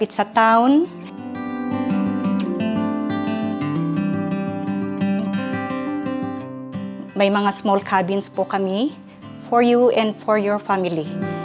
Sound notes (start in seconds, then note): none